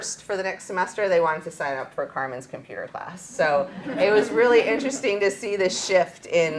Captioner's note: laughter